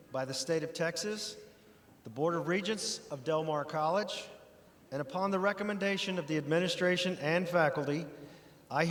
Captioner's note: none